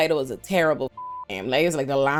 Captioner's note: beep